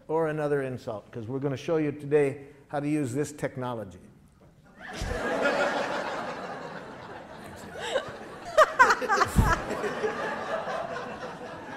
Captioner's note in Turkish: Gülüşmeler